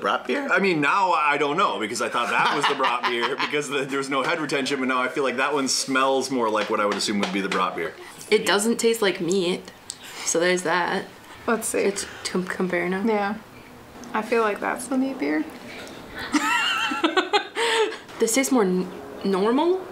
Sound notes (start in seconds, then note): 16.1 laughs